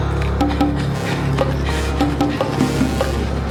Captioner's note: Macy panting